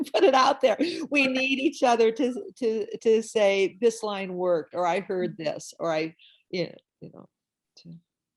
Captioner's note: laughs